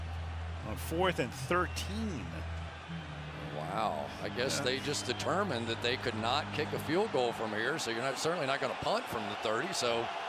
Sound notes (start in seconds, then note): 2.3 cheering